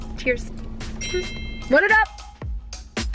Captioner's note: chime noise